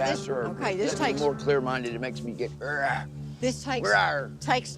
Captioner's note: growls